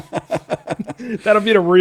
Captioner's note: laughing